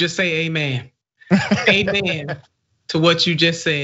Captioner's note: laugh